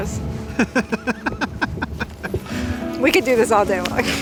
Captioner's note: laughing